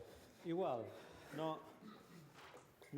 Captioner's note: non-english